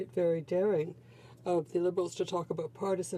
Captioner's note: speaking in french